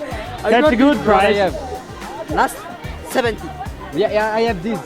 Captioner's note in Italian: Inglese